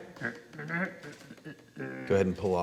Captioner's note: humming